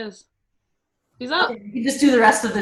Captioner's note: murmurs